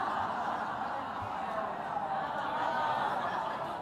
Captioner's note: laughter